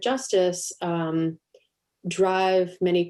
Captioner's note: none